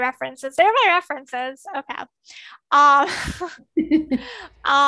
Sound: laughs

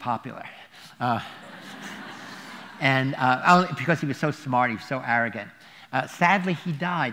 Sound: laughter

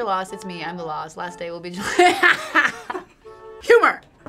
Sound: laughs

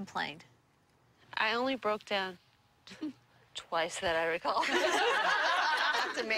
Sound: laughter

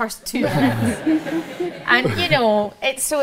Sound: audience laugh

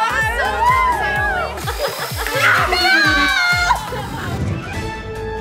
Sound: group cheering; dramatic music

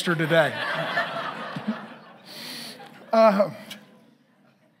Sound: congregation laughing

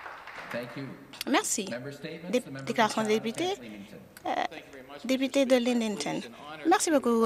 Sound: some Applause

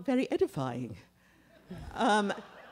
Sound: laughter

